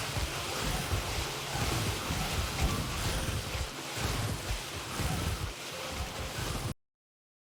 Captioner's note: even more biting sounds and sounds of explosions and alarms; biting cacophony